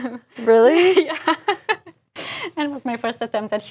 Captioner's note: laugh